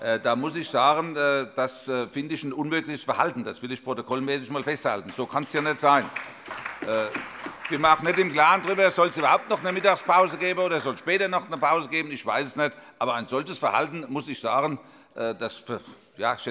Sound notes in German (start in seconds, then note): 5.0 Beifall bei der SPD, der LINKEN und der FDP